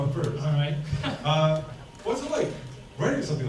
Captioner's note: laughs